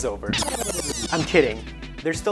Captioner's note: tape screeching